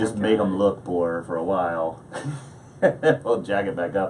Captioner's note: laughs